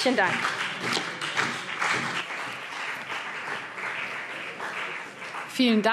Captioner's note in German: Beifall CDU und BÜNDNIS 90/DIE GRÜNEN